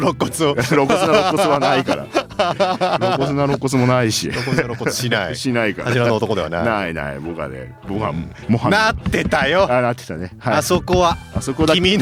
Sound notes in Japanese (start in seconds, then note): 0.0 笑い; 2.9 笑い